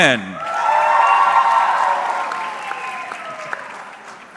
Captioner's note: audience cheering